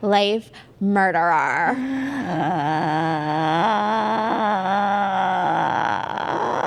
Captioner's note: a long gasp